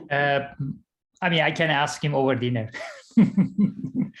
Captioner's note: laughing